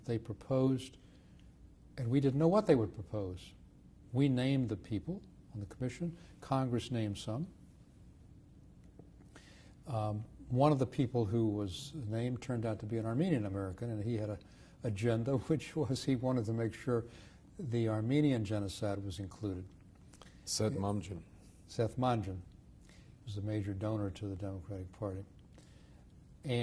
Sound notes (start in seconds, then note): 7.6 pauses for 3 seconds